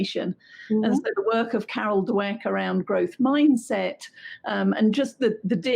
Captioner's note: voice scrambles